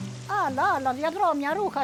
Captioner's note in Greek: ήχος του νερού, απαλή μουσική